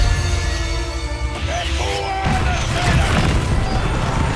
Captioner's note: sailors yelling